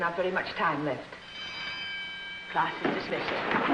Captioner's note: school bell rings